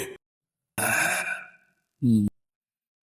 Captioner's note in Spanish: Suspiro